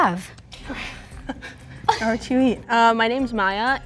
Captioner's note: people laughing